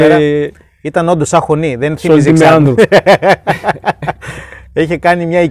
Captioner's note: chuckle